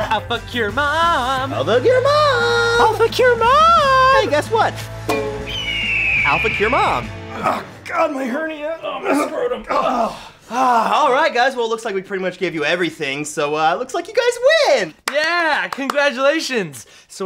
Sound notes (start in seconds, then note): 7.3 grunting; 8.9 both grunt